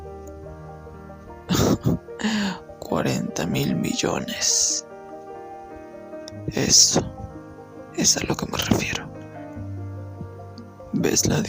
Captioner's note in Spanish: risas